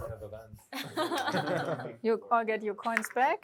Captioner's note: laughter